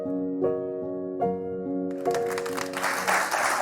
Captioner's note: applause